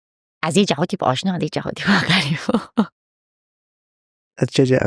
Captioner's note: laughs